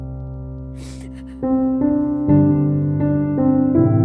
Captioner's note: Serelda sobs